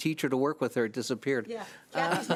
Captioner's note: laughs